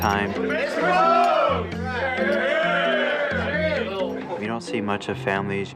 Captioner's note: pilots chattering indistinctly